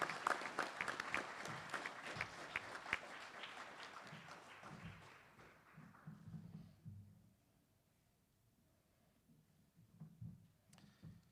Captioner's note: applause